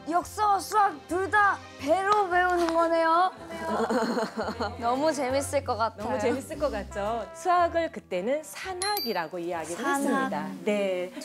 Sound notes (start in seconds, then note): 3.5 haha